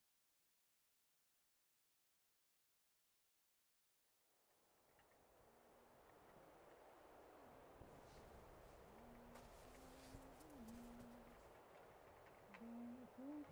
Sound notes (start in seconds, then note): 3.4 waves lapping against the shore; 11.1 footsteps and a woman humming outside